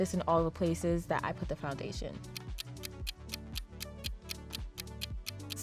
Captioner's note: clock ticking